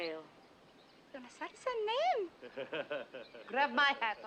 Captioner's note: speaking japanese